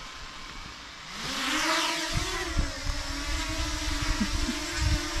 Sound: drone buzzing

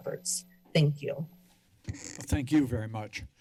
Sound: microphone squeaks

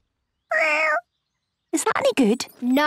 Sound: small meow

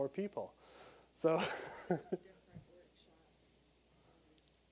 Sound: laughing

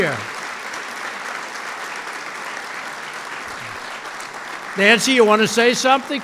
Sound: applause

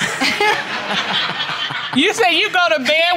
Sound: audience laughing

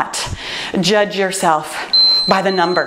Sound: timer beeps

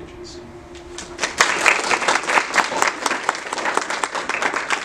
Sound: audience applauding

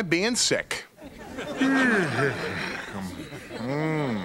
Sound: <i>yawning

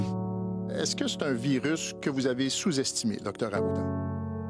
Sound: speaking French

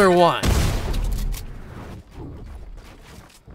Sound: mine blowing

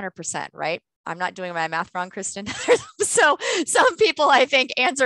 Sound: laughter

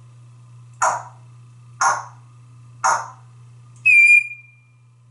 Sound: knocking sounds and whistle

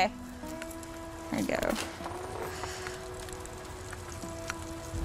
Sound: bicycle wheels trilling

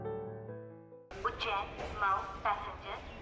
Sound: train Announcement

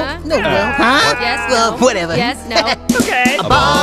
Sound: giggles

